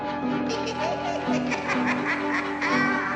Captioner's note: laughter echoing